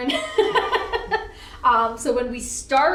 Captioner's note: laughs